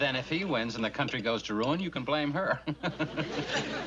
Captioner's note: chuckles